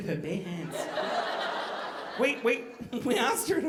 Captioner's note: audience laughing